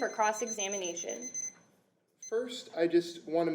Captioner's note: beeping sounds